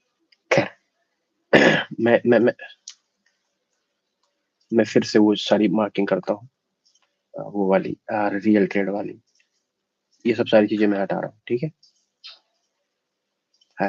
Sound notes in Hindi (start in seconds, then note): 1.5 गला साफ़ करने की आवाज़